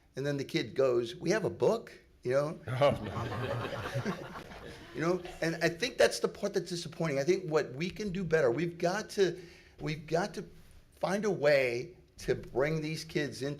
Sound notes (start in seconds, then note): 2.8 everyone laughing